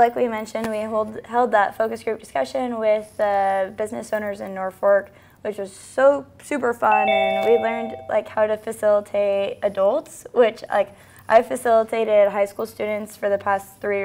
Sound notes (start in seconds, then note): 6.8 bell Sound